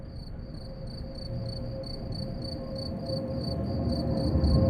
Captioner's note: crickets chirping; train passes